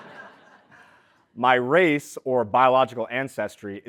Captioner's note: laugh